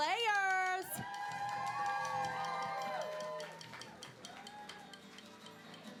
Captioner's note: cheering